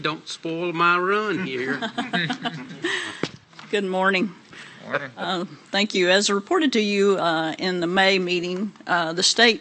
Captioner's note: laughter